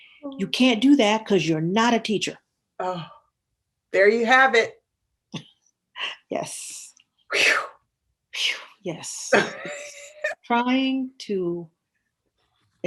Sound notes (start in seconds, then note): 6.0 laughs